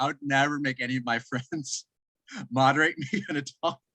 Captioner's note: chuckle